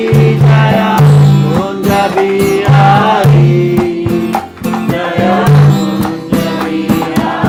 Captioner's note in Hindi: तालियाँ